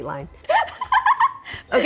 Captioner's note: laughs